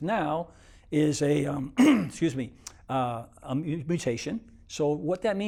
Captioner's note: clears throat